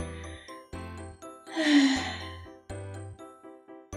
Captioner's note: sigh